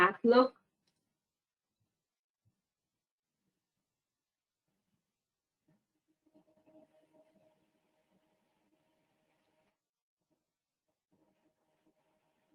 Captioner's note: 14 seconds pause